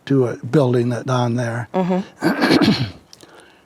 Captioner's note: clears throat